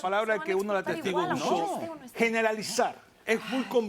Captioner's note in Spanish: Hablan al unísono